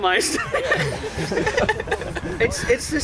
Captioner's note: laughter